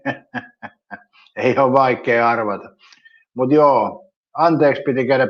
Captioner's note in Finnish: naurua